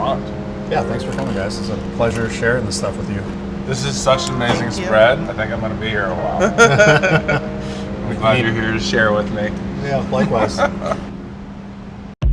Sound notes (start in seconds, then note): 6.4 laughter